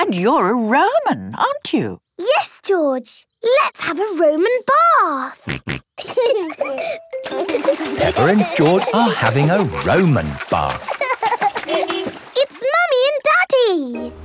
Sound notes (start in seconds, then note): 11.2 car beeps; 11.2 laughing